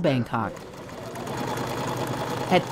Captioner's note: sewing machine whirring